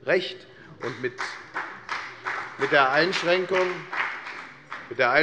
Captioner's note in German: Beifall bei der FDP